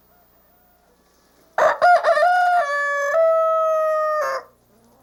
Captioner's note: rooster crowing